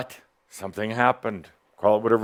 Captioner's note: none